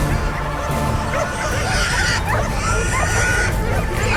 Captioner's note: boar squealing; dogs barking